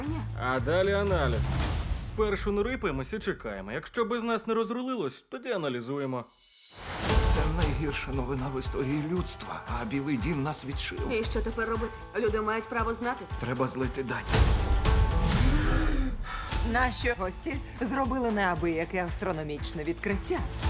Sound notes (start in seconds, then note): 15.4 deep breath